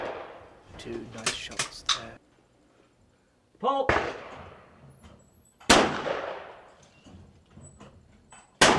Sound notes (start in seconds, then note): 5.6 gun shooting